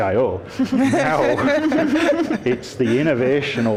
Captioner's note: laughter